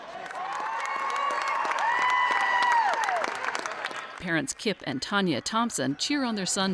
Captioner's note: applause